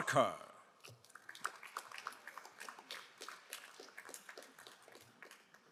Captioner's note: crowd applauding